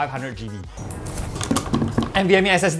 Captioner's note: screwing INTENSIFIES